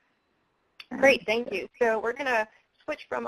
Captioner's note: voiceover